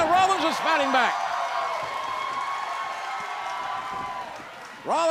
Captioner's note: crowd cheering